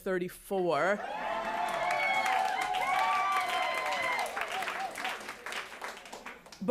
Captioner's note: cheering